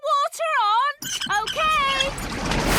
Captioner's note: wheel squeaking